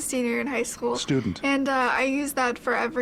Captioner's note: voiceover